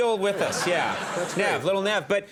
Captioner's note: audience laughing